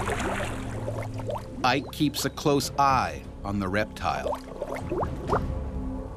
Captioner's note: voiceover